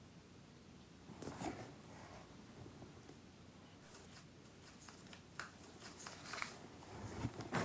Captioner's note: lid rustling; paper rustling